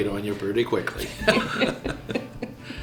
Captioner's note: chuckles